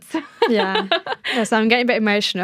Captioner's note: laughter